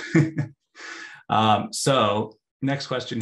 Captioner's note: laughs